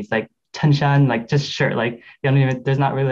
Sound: speaker speaking Chinese

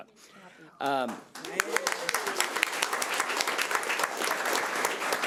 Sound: audience applauding

